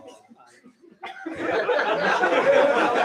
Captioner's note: laughter